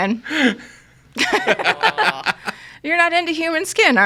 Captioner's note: all laughing